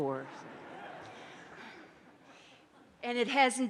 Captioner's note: audience laughs